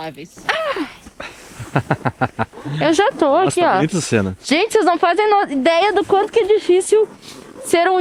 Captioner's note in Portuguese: risadas